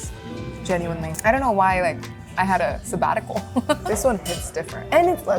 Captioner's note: laughing